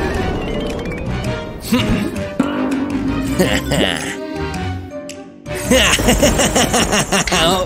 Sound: evil laughter

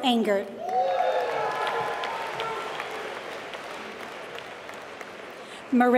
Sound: applause

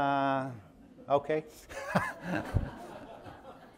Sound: laughs; audience laughing

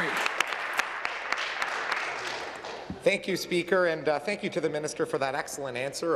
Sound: applause

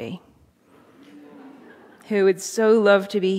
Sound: audience chuckling

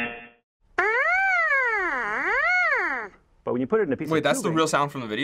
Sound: buzzing

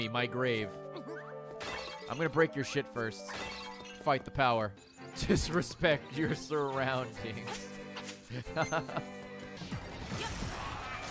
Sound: laughs

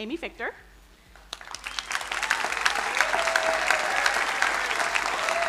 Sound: crowd cheering and applauding

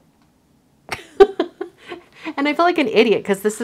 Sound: laughs

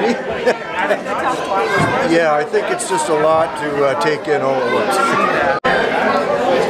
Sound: laughing

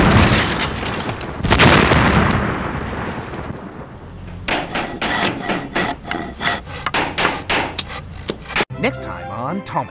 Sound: explosions; building noises

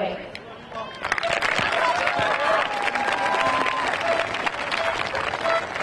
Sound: audience clapping and cheering

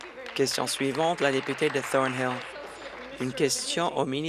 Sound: applause

